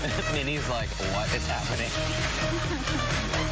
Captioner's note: laughter